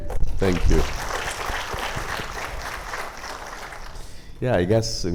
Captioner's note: audience applauding